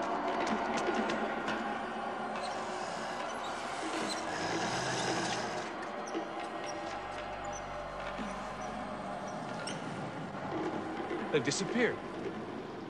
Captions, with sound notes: (slow, tense music) (dead soldiers groaning) They've disappeared.